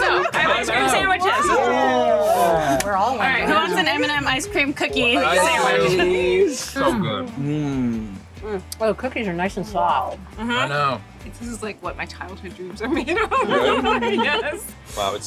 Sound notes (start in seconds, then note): 13.0 laughs